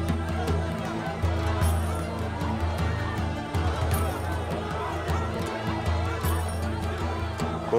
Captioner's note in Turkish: Kalabalık bağrışma sesleri